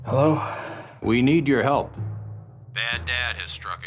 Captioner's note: voiceover